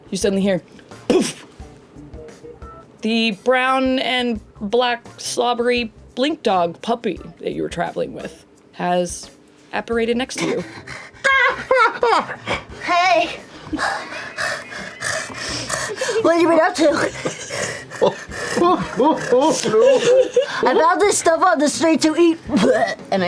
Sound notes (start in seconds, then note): 11.0 panting; 13.4 startles; 13.8 pants; 19.3 laughs; 22.8 gags